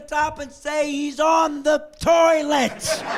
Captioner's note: laughing